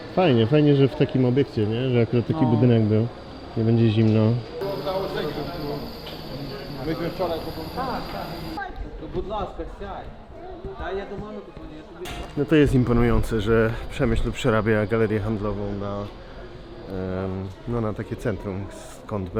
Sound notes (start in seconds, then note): 6.5 chatting in the background